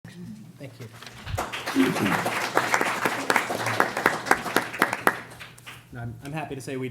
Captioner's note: clapping